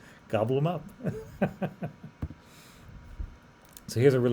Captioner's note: laughs